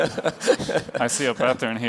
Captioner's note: laughter